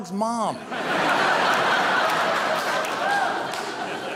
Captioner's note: audience laughing